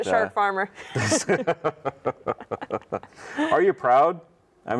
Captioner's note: laughs